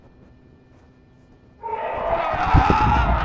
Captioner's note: screech